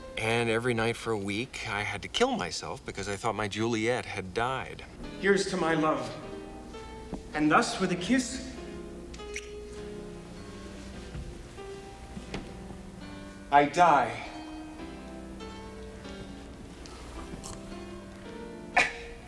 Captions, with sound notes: And every night for a week, I had to kill myself because I thought my Juliet had died. Here's to my love. And thus with a kiss, (lips smooching) I die. (gentle music continues)